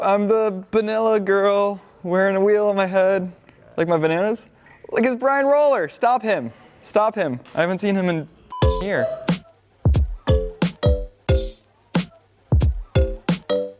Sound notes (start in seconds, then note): 8.4 beep; 9.8 upbeat music